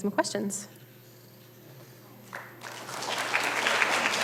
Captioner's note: applause